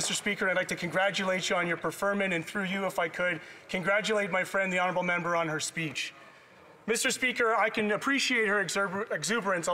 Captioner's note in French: voix de l'interprète